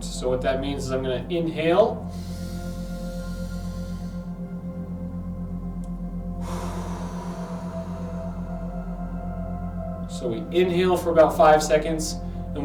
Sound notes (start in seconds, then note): 2.0 inhales; 6.3 exhales